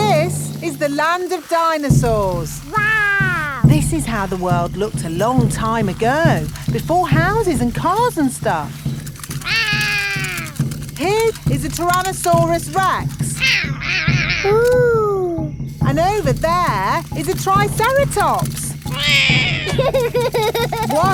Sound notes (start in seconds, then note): 9.5 roaring; 13.4 roaring; 17.4 laughs; 18.9 roars